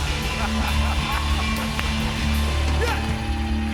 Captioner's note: laughter; cheers and applause